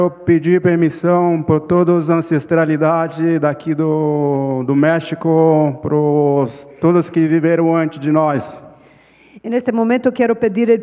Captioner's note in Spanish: Ponente habla en portugués